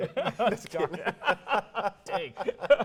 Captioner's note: laughing